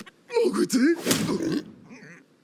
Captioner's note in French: Bruit de chute et grognement